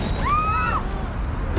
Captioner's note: woman screaming